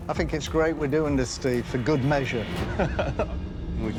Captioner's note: chuckles